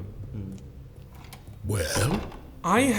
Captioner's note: door closes